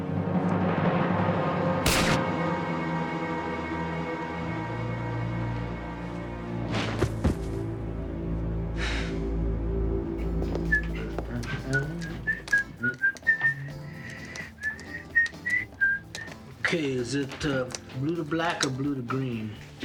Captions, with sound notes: (gunshot firing) (Kari thudding) (Tamara sighing) (Joe whistling) - Okay, is it blue to black or blue to green?